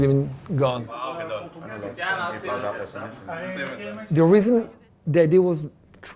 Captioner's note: employees talking